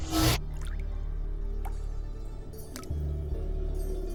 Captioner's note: water dripping